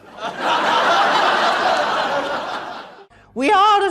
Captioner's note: audience laughter